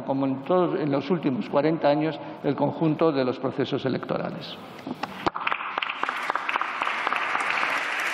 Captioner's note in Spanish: Aplausos